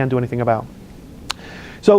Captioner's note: lip smacks